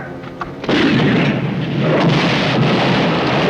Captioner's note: cannon booming; explosion